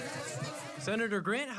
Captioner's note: nats of yelling